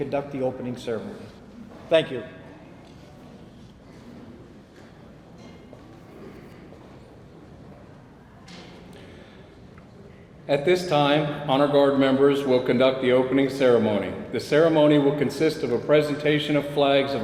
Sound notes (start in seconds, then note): 4.3 people chattering